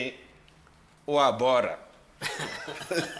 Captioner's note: everybody laughs